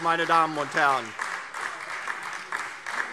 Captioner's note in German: Beifall DIE LINKE